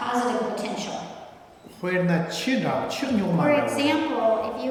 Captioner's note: speaking tibetan